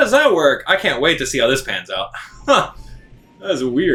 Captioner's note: laughing